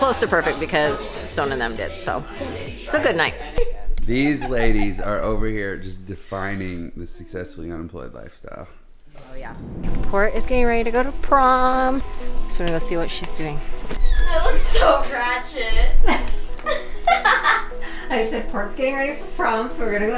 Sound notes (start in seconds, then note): 16.6 laughing